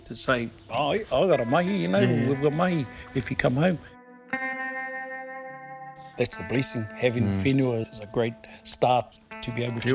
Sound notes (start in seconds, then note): 1.9 laughing